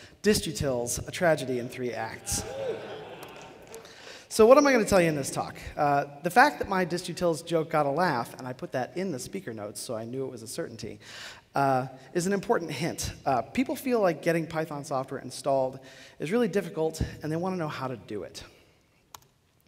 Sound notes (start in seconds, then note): 2.4 laughter